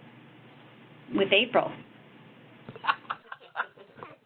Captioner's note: laughing